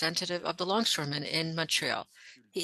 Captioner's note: speaking French